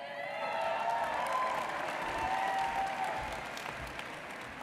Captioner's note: audience cheers